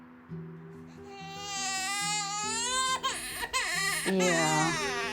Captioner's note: baby crying